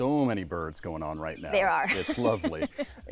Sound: chuckles

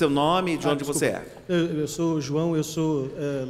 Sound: speaking portuguese

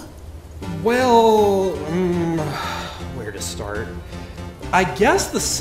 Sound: sigh

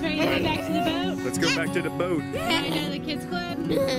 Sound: voiceover

